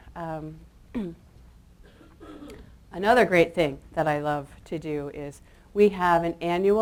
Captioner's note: clears throat